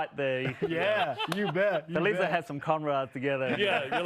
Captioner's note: laughter